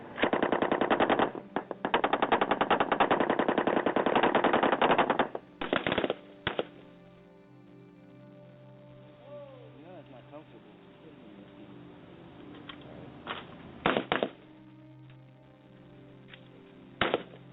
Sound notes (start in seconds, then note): 0.3 guns banging; 9.2 soldiers chattering; 13.9 guns banging